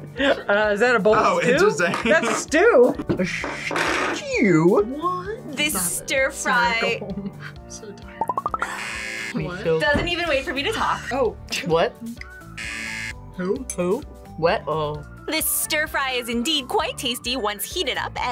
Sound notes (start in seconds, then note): 6.8 laughs; 8.7 buzzer; 12.5 buzzer